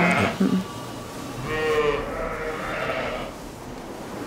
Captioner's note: multiple bleating